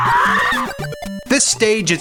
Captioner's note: woman Screams